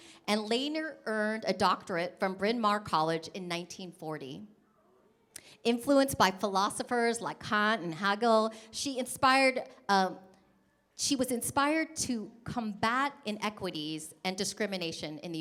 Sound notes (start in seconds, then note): none